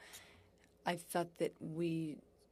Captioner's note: speaking French